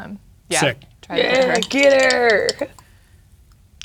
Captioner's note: dice rattling